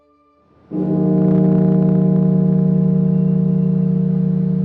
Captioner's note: bell tolling